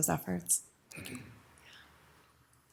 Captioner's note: whispers